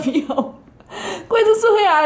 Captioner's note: laughing